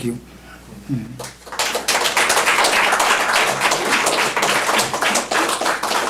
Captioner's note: applause